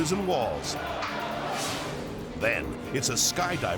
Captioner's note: air whooshes